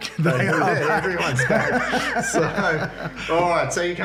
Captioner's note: laughs